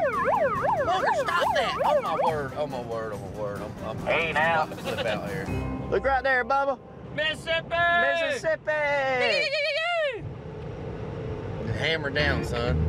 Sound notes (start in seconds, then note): 9.0 yelling